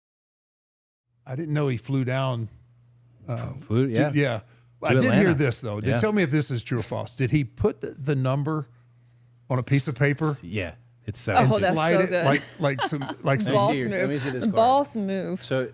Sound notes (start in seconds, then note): 11.4 participant laughing